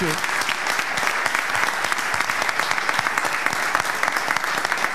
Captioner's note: audience clapping